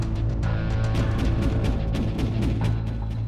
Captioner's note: gunfire